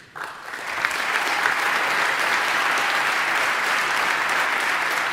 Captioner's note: audience applauding